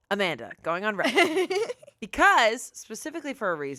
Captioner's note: laughs